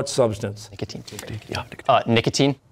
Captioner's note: whispering